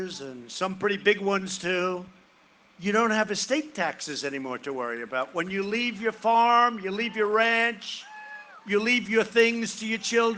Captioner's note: cheering and applause